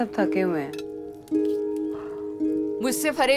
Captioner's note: Yawning